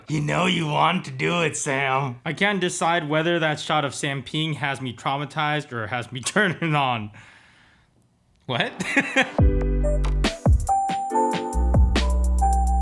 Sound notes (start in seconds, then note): 8.6 laughs; 8.6 bright upbeat music